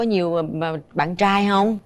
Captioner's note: none